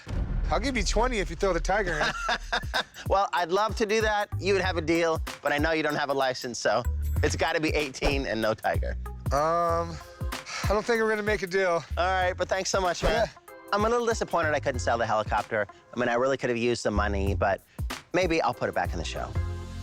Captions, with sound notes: I'll give you 20 if you throw the tiger in. - [laughs] Well, I'd love to do that. You would have a deal. But I know you don't have a license, so it's gotta be 18 and no tiger. - Um, I don't think I'm gonna make a deal. - All right, but thanks so much, man. - Yeah. - I'm a little disappointed I couldn't sell the helicopter. I mean, I really could've used the money. But maybe I'll put it back on the shelf.